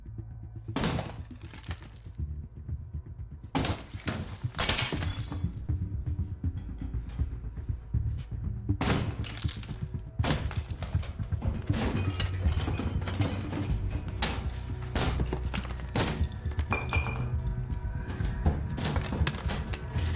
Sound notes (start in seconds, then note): 0.1 intercom; 4.8 very loud banging; 8.8 wall smashing; 16.4 very loud banging